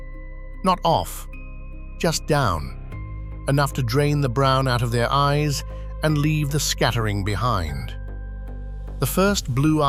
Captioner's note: breath